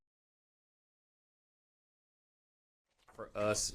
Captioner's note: silent